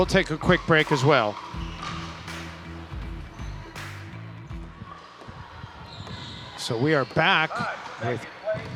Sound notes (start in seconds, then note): 2.9 upbeat music; 5.6 people chattering